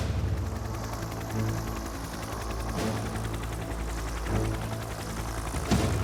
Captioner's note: helicopter whirring; dramatic music